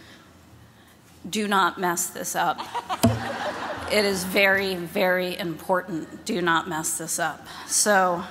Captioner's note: laughter